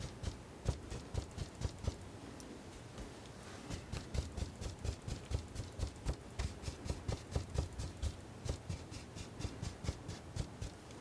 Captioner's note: scratching